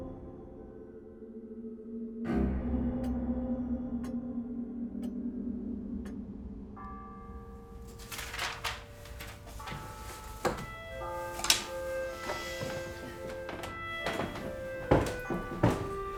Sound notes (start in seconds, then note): 3.0 clock ticking; 6.7 bells chiming